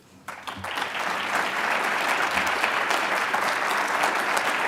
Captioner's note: audience applauds